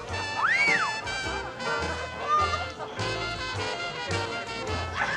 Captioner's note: wolf whistle